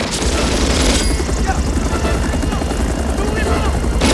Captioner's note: Korean